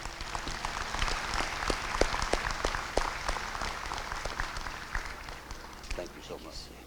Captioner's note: applause